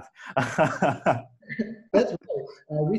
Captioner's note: laughs